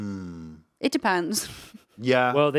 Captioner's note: laughing